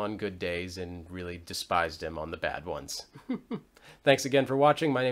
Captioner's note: chuckles